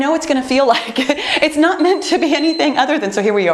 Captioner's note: laughs; beeping